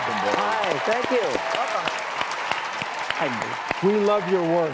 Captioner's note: audience applauds